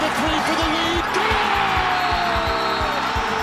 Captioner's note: announcer and audience cheer